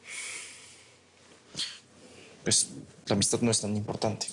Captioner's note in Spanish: Suspiros